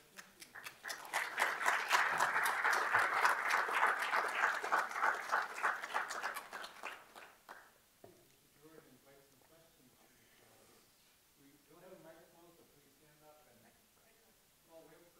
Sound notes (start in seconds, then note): 0.1 clapping; 8.6 man speaking off microphone